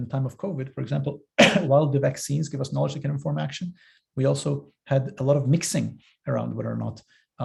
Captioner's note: cough